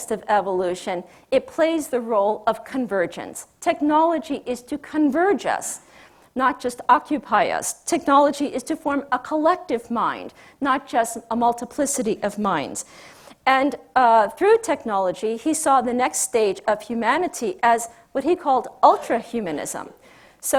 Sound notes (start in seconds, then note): none